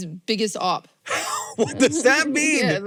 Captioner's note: laughs